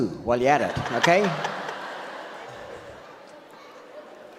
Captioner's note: audience laughs